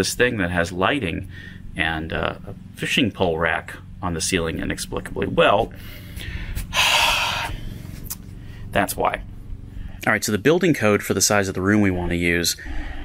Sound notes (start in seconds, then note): 5.8 yet another sigh